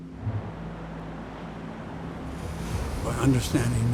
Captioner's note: waves rumbling